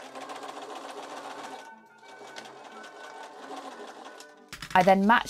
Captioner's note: machine whirring